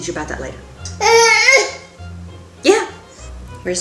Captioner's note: baby grunt